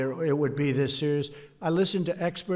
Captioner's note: off-mic